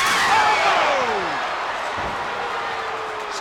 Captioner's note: spectators cheering